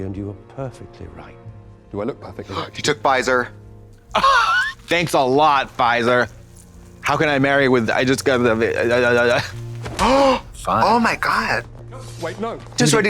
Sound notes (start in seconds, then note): 4.0 Katya wheezes; 10.0 Trixie gasps